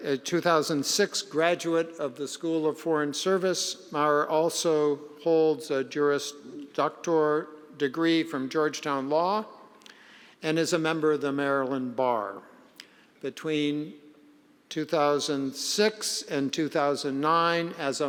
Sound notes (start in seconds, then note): none